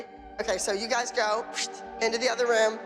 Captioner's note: whooshes